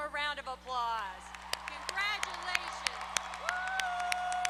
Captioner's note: applause